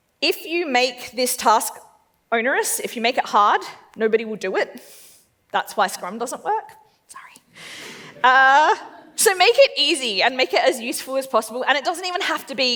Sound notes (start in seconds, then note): 7.8 laughs